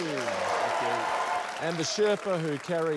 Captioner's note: applause